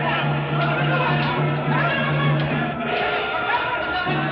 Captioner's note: all clamoring